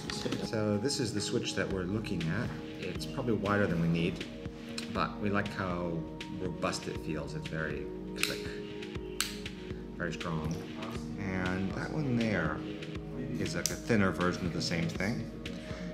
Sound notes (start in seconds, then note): 9.2 clicking sound